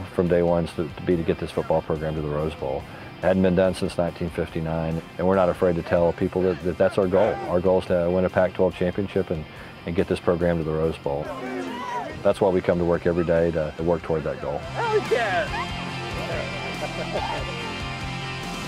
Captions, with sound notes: Our goal from day 1 is to be to get this football program to the Rose Bowl. Hadn't been done since 1959 and we are not afraid to tell people that's our goal. Our goal is to win a Pac-12 championship and get this program to the Rose Bowl. That is why we come to work every day and work toward that goal. Alley Cat! [girl squeals] [laughter]